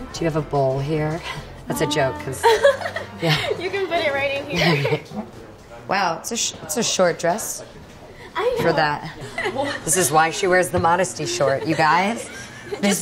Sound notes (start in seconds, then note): 2.1 laughs; 9.0 laughs